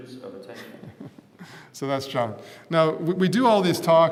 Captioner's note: laugh